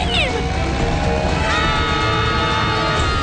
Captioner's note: screaming